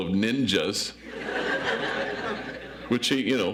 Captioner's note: audience laughs